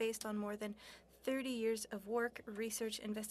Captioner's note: speaking french